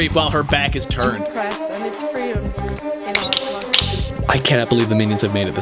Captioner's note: knives clinking open